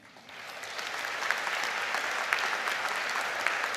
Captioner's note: audience clapping